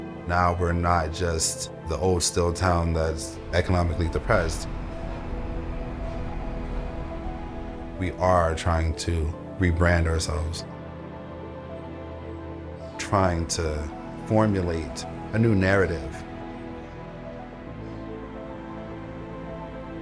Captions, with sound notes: Now, we're not just the old steel town that's economically depressed. [train passing] We are trying to rebrand ourselves, Trying to formulate a new narrative.